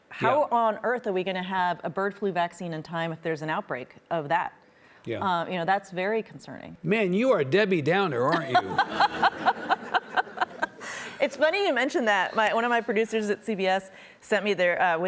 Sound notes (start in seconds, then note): 8.3 laughing